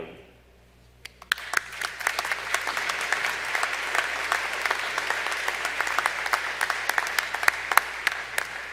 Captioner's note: applause